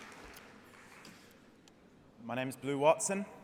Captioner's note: applause